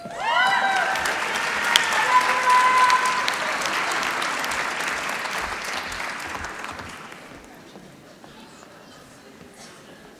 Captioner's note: applause